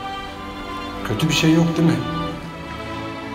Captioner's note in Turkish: Sinan dış ses